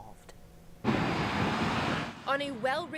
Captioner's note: truck drives